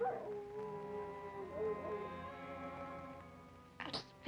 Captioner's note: dog howling